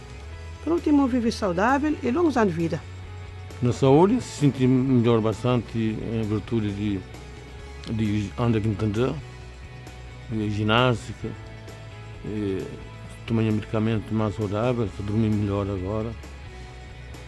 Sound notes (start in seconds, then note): 3.8 speaks in a foreign language